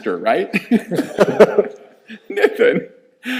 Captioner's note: both laughing